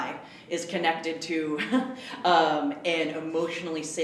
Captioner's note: laughs